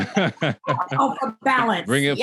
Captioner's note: all laughing